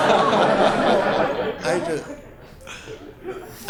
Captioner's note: laughter